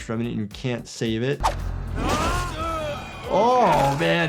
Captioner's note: characters groan, weapon slashes